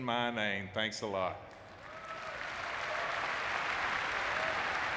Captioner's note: audience clapping